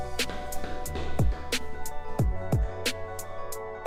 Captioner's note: feet thumping